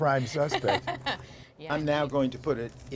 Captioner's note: laughter